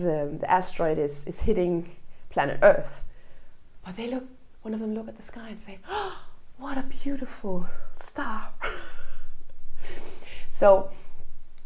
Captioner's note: laughs